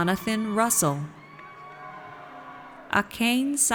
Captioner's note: audience cheers